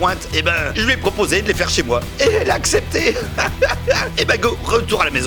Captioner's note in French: rires